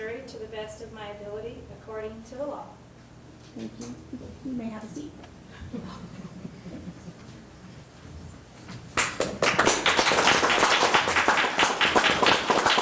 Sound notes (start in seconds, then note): 8.9 group applauding